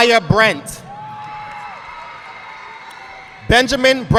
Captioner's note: audience clapping